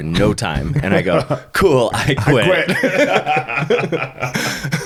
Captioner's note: laughing